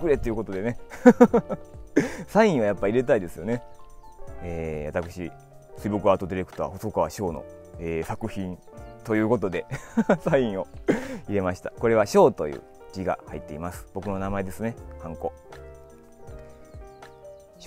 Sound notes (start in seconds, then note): 9.7 laughs